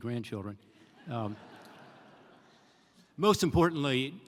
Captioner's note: laughter